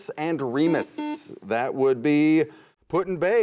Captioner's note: buzzer sounds